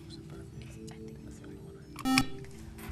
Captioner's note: beeping